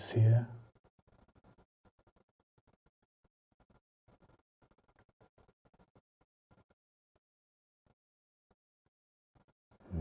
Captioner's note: silence